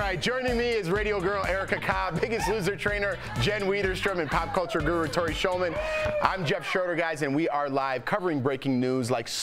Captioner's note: cheering